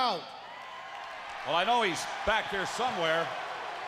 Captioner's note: crowd cheering